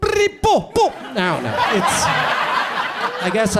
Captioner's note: audience laughs